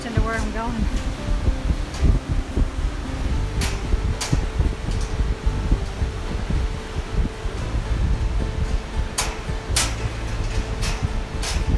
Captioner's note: clanking continues